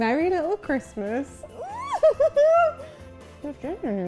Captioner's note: laughs